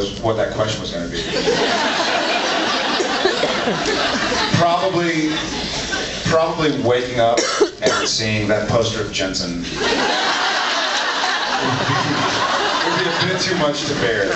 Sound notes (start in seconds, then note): 1.2 laughs; 9.8 laughs